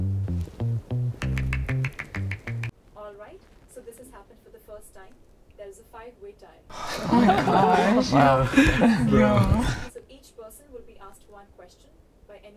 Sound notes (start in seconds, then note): 6.7 group chuckle